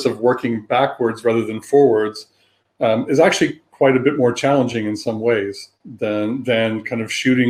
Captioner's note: erm